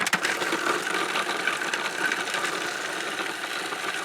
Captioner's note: processor whirring